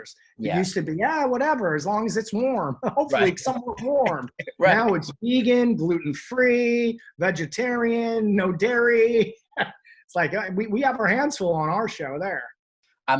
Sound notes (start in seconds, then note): 8.6 laughs